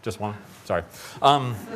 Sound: laughter

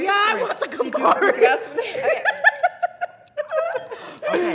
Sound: laughing

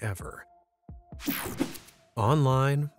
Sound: screen whooshing

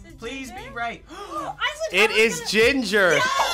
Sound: both gasp

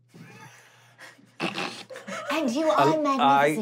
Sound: snorting

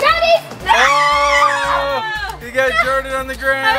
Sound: all shouting

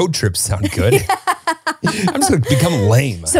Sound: laughs

